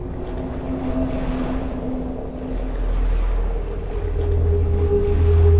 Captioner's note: moving water